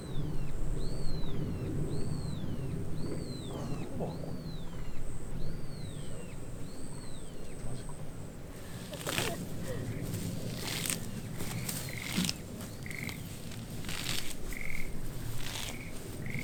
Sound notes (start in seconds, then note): 8.6 laughs